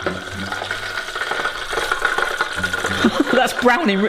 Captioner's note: oil bubbling